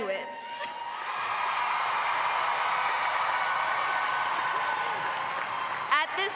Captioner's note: audience applauding